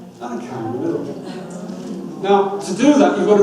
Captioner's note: audience murmurs